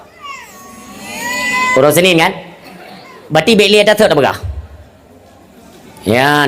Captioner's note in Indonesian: menangis